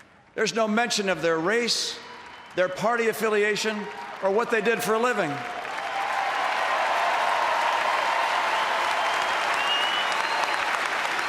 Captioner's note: applause